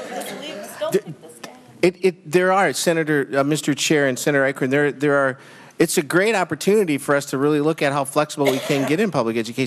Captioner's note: laughter